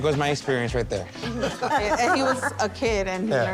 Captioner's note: laughs